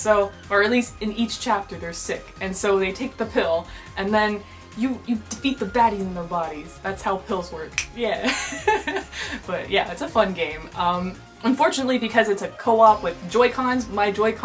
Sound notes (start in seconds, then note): 7.7 snaps; 8.2 laughter